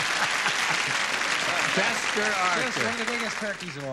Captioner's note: laughter